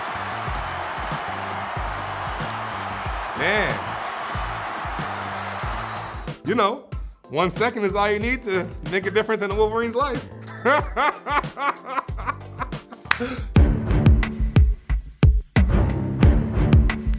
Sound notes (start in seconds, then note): 10.4 laughing; 12.7 clapping